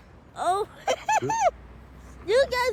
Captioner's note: giggles